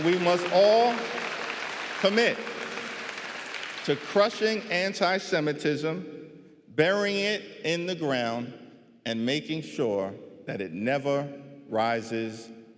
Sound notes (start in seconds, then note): 0.0 applause